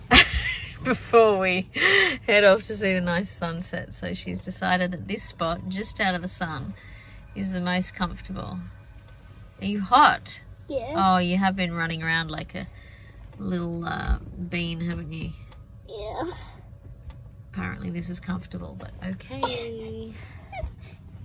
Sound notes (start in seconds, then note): 0.4 laughs; 15.8 sounding squashed; 19.3 giggles in a compressed manner